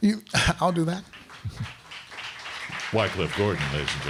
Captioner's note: crowd clapping